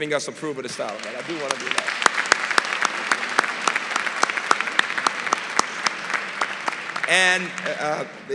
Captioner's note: applause